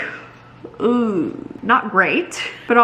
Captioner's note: groans